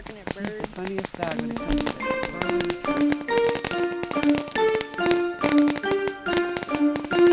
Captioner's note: fireworks popping; light orchestral music